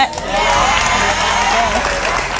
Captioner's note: audience cheering